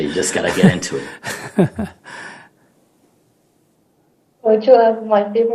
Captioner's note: laughter